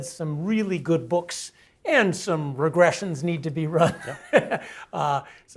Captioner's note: laugh